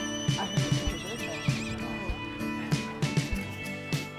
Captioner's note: horse whinnies